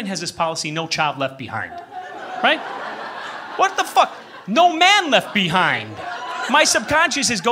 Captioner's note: laughter